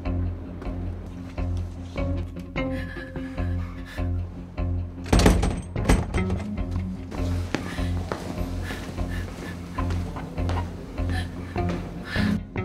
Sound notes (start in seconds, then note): 5.0 rattling door handle